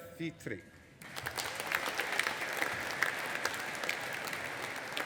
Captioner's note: audience applauding